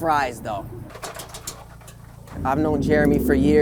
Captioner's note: fries shaking